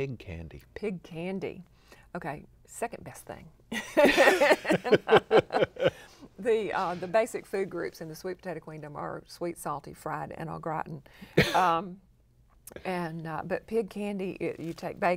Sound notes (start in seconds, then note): 3.7 laughter